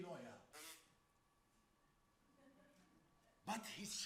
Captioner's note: man makes buzzing sound